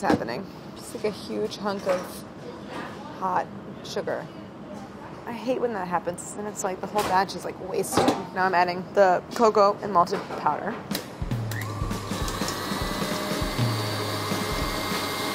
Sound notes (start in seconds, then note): 11.4 whirring